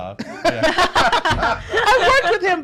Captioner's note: laughs